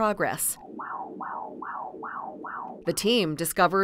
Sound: heartbeat sound

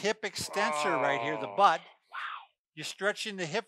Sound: groaning

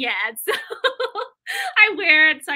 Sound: laughter

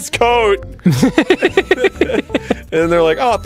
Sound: both laughing

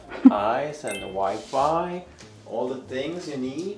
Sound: chuckles; bell chimes

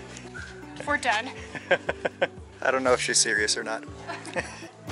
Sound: laughter

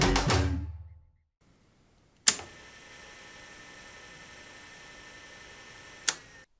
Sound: music with drums, Spanish guitar, and whistles; sound of buttons/switches being pressed

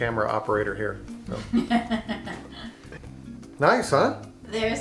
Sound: woman laughs

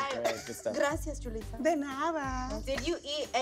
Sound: speaks in a foreign language

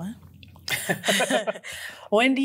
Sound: laughs

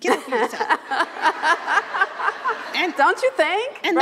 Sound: laughter

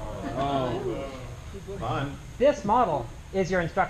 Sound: groans

